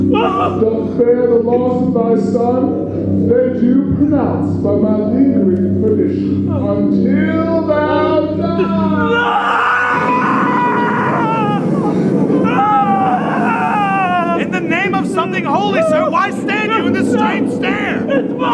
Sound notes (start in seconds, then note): 10.3 yelling